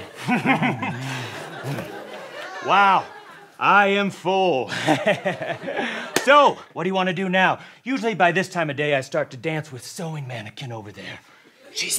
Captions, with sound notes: - Mm, hm, hm. Wow, I am full. [chuckles] So, what do you want to do now? Usually by this time of day, I start to dance with sewing mannequin over there.